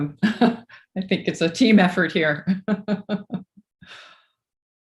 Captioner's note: laughs